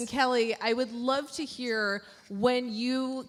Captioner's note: Lauren speaking faintly